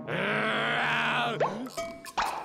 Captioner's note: growls